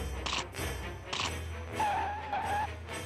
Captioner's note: none